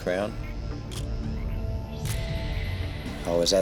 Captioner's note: camera shutter click